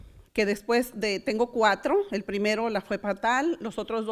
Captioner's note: none